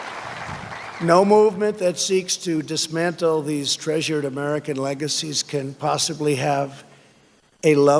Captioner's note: applause